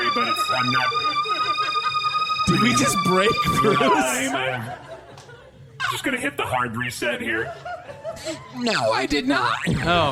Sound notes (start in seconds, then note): 2.4 computer glitch sound stutters, then stops; 7.4 audience laughter